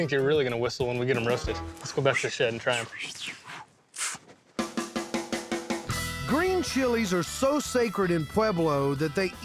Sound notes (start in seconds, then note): 3.4 whistling